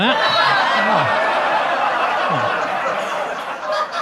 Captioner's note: audience laughs